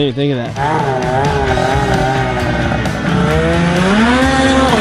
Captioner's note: engine roars